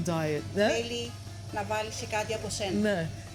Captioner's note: speaking greek